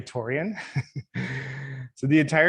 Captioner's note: laughing